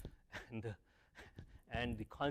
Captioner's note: laugh